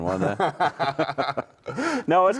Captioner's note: both laughing